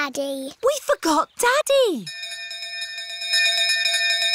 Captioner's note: bell continues dinging